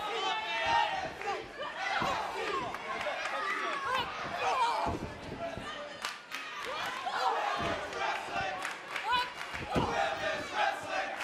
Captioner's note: fans chanting